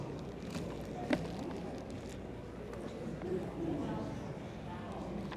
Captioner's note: attendees chattering